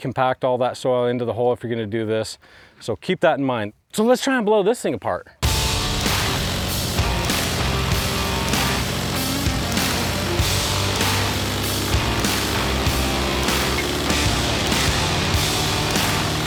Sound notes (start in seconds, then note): 6.0 rock music; 9.0 airboat motor running; 9.0 fan blowing